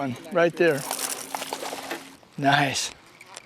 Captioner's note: splash